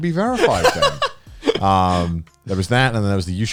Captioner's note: Joey laughing